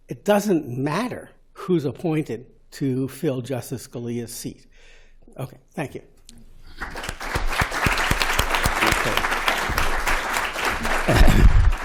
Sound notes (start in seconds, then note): 6.8 applause